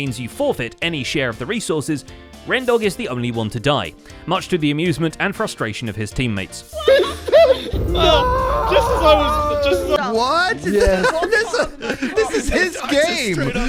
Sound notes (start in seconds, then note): 7.7 End Portal noise